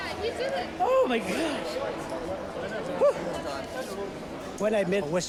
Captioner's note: overlapping chattering